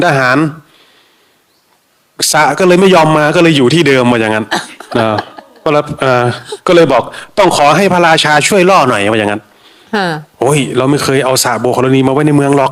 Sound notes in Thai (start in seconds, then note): 4.4 เสียงหัวเราะ